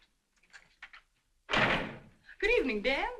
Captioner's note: door slamming